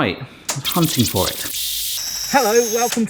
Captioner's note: audio screeching